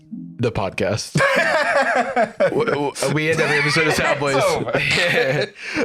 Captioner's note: laughs